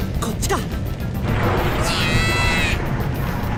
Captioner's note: pained cry